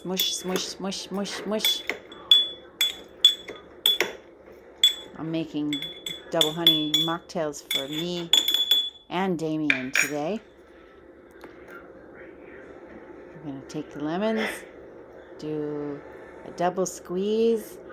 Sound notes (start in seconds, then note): 0.0 spoon clinks on glass; 2.4 more clinking